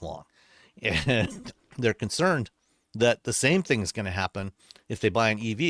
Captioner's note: chuckling